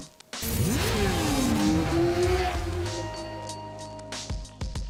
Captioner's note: motorcycle engine roaring